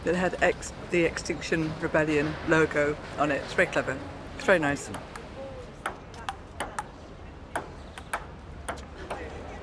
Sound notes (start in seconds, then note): 6.2 ping-pong ball bouncing